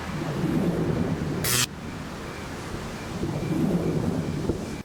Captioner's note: orb buzzing